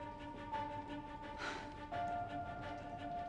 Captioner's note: sighs